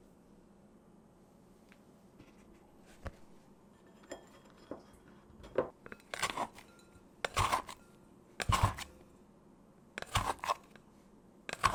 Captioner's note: folding